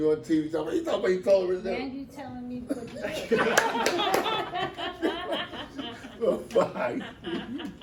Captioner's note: laughter